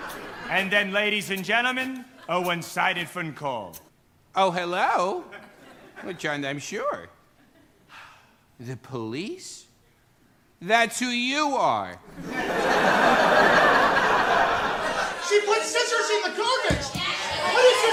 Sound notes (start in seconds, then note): 0.0 laughter; 7.9 gasps; 12.1 laughter